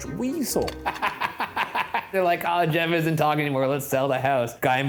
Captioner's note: laughs